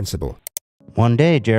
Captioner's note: click